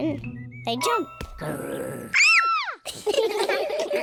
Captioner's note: growls; kids shout; all laughing